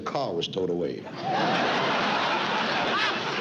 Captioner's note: laughter